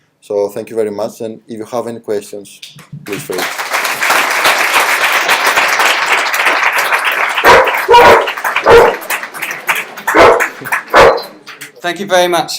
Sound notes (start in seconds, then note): 3.0 applause; 7.3 guide dog barks